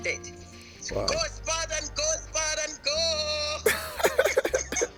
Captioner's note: yelling; laughs